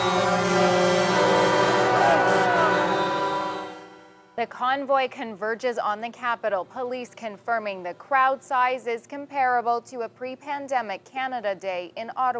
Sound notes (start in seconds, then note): 3.1 horn; 3.5 cheering